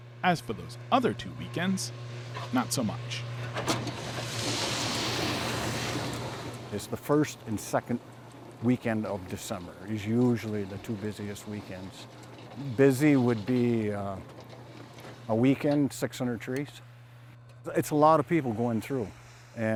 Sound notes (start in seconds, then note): 4.0 machine whirring